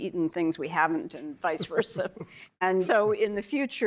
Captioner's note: chuckling